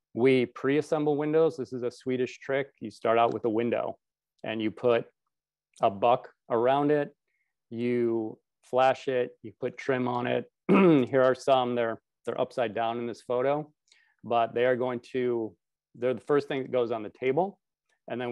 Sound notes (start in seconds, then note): 10.6 clears throat